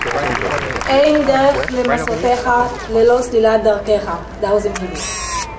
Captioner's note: speaking in foreign language